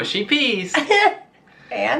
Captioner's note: laughs